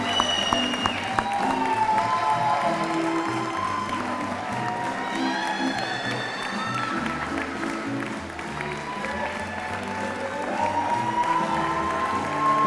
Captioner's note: applause and music continue